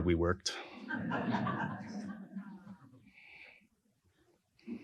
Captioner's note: all laugh